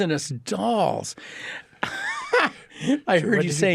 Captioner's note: laughs